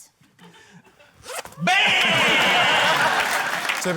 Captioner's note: zip whizzes; applause